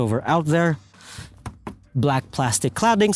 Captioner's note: tap tap